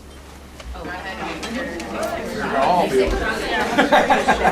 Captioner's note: people chattering